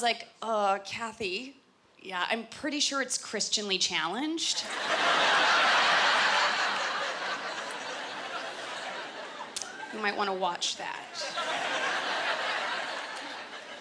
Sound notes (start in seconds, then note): 4.6 laughter